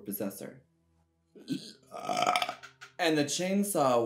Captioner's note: burp